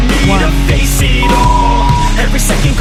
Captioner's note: beep; upbeat music